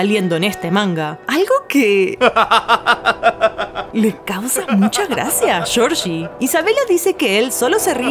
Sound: laughs

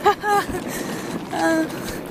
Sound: uncomfortable laughter; groan

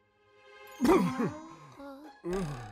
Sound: spits

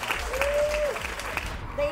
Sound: applauding and cheering

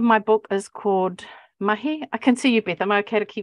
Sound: speaking Maori

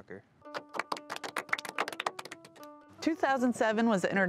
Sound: applause

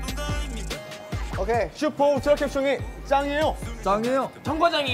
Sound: confident

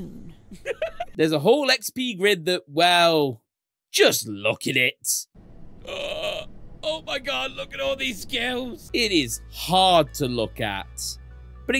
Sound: Look at it meme sound

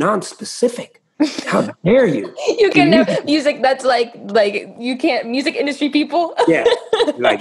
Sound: laughter

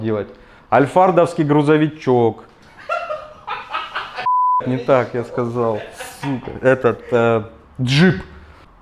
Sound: wild laughter

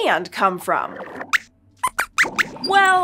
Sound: squeaks squeaks

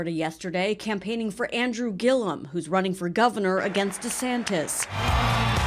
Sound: Biden crowd

